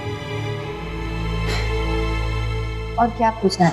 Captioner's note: sharp exhale